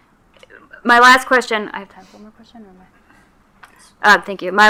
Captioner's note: speaking faintly